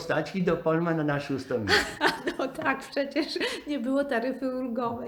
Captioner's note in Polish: śmiech